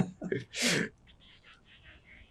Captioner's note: laughing